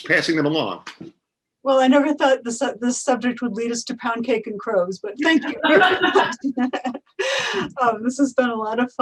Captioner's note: both laugh